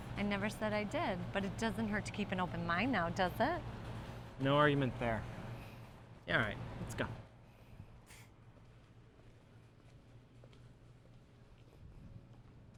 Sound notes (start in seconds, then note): 9.0 footsteps passing